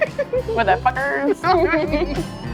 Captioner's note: laughing